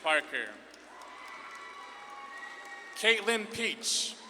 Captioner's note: audience claps and cheers